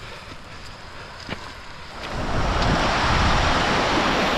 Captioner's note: sound of rain and wind